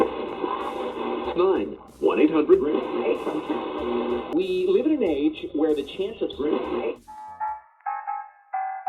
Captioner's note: scanning radio station dial; big band swing music